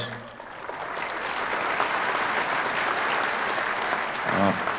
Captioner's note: audience applauding